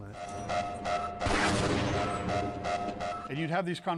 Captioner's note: siren; gunshot